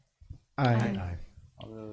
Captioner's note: in Unison